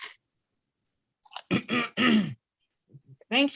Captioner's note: clears throat